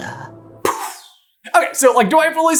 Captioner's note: pooooooof